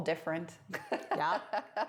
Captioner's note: laughs